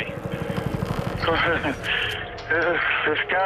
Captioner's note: chuckles